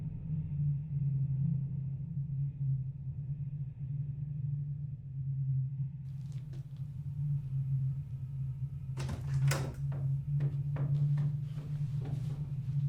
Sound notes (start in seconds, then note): 8.9 distant heavy door opens